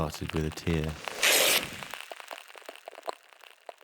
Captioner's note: paper tear